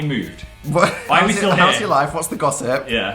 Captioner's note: laugh